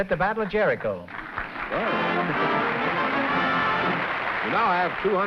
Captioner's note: applause